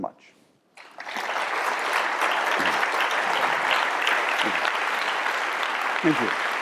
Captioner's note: applause